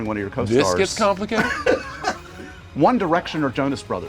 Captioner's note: laughter